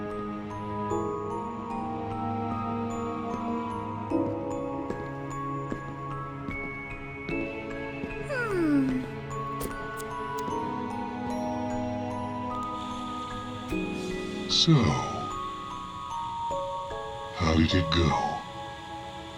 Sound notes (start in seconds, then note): 8.3 clicks tongue; 12.6 TV flickers to life